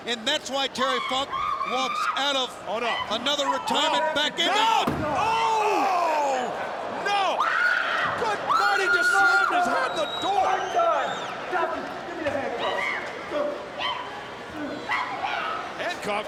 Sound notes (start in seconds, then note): 7.3 Daffney screams